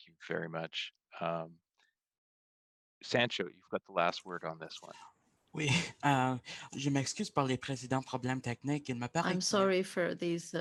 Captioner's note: speaking French